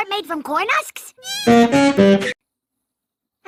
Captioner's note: fart